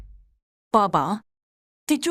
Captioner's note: door closing sound